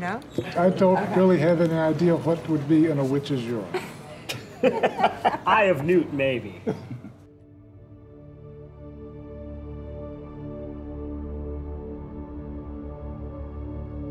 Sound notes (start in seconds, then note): 3.7 laughing; 7.2 gentle music